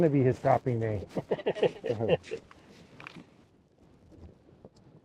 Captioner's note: both laugh